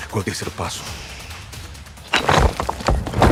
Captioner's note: in English; shushes